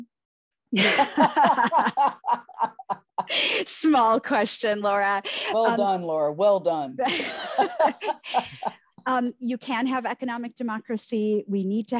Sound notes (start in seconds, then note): 0.8 all laughing; 7.1 laughing